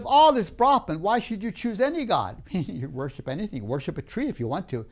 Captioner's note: laughs